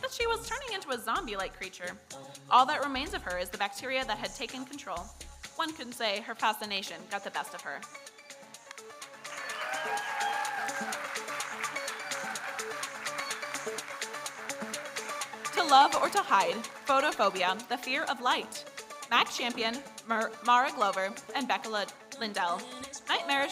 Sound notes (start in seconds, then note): 9.1 audience cheering and applauding; 13.9 electronic dance music